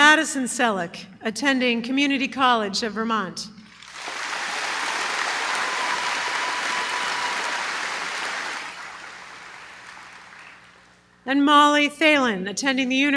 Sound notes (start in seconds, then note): 3.7 applause